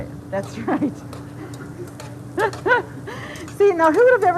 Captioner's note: laughs